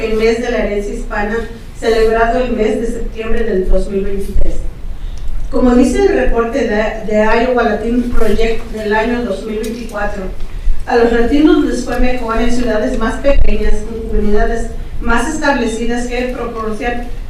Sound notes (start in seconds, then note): 8.6 continues speaking in Spanish